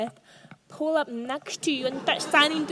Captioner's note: audience laughs